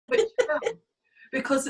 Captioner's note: laughs